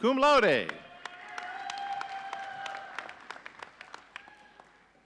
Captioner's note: audience cheering